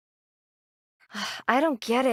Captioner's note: sigh